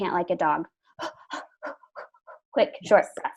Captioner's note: pants